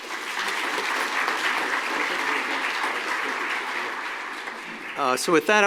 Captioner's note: applause